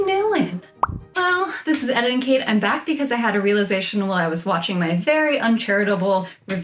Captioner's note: pop noise